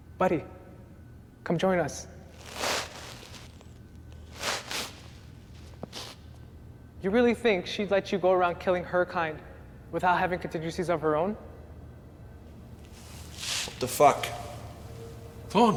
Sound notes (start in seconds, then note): 2.4 footsteps thumping